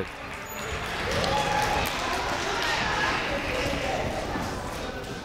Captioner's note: crowd chattering faintly